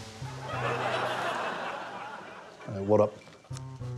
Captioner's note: laughter